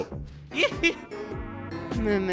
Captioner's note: chuckles